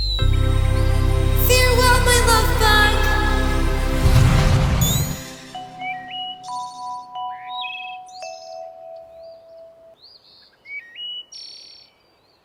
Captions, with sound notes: Farewell, my lovebug! (Magic zipping)